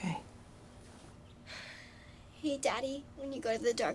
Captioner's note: sighs